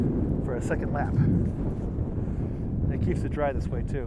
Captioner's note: wind blowing